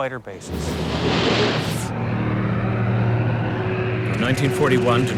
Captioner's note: plane engine roaring